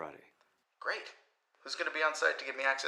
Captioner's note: Marco On Phone